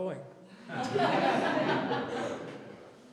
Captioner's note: laughter